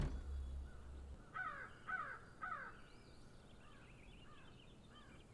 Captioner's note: birds cawing in the background